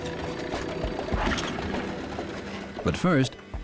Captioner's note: engine starts